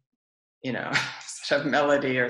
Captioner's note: laughs